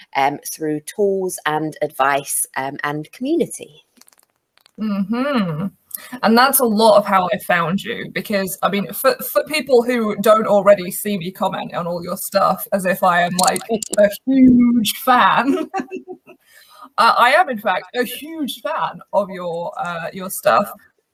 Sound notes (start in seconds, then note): 4.8 humming; 15.5 laughs